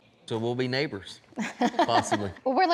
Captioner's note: chuckling